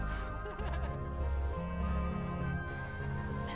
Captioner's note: cellulare che vibra